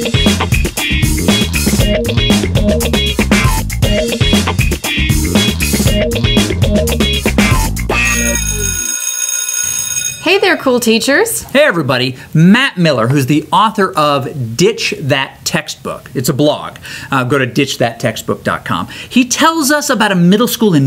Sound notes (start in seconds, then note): 0.1 upbeat music; 8.0 school bell